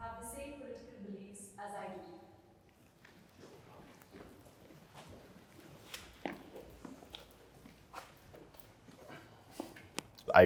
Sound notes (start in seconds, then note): 4.4 footsteps